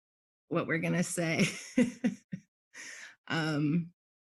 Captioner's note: laughs